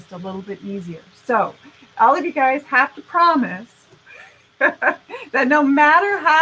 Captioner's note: laughing